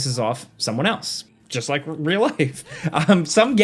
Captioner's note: chuckles